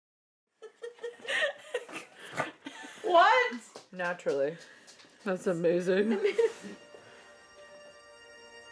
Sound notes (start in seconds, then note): 0.6 laughing